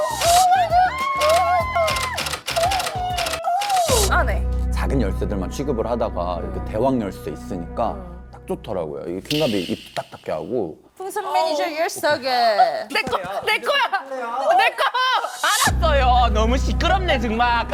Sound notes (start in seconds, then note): 12.9 still in a loud voice